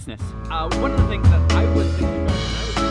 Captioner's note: muffled conversation